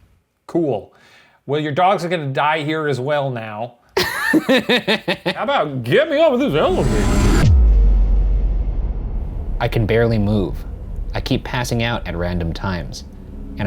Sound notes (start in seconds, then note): 4.0 laughing